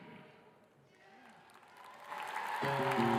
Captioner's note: audience applauding